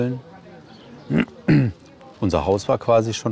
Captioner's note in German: Räuspern